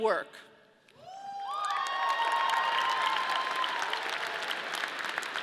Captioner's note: audience cheering